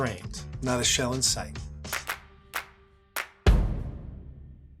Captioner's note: hands clapping